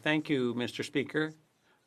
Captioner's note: speaking FRENCH